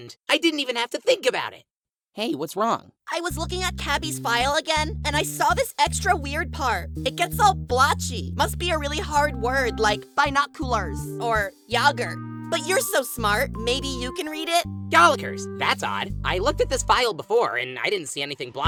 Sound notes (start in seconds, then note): none